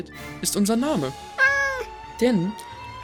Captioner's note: meow